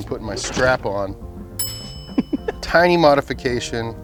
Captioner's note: bell dings; laughs